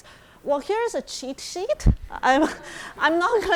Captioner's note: audience chuckling